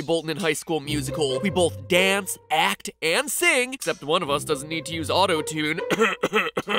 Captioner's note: cough cough